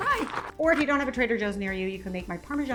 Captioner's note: bag rustles